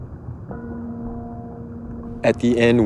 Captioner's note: gong sounding